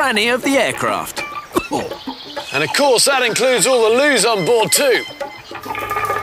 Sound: coughs

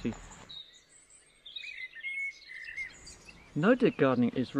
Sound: birds chirping

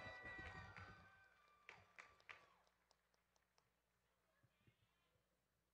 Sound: audience cheering and clapping

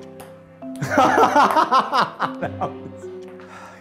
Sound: laughs

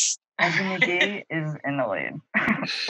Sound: laughing; laughs

